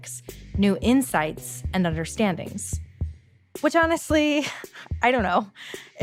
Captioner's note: chuckles